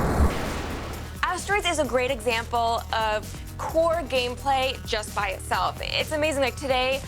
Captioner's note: explosion